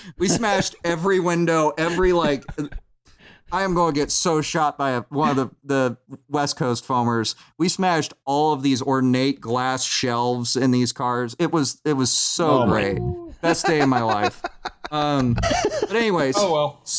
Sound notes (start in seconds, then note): 13.8 cackles